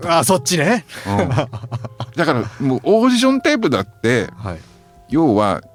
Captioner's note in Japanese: 笑い